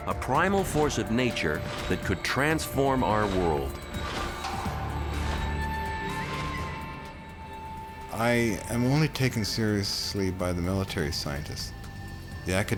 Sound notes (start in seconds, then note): 4.0 inquisitive music; 4.0 object whooshing